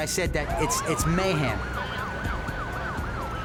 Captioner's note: sirens wailing